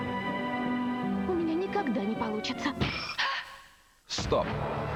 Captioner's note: knock